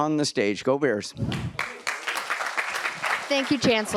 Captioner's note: applause